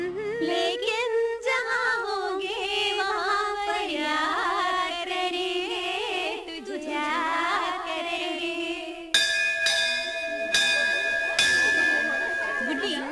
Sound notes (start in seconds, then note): 9.1 school Bell